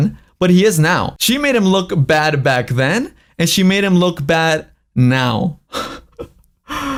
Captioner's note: laughs